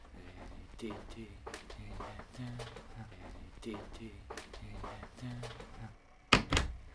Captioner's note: humming